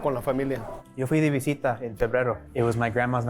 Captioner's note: in Spanish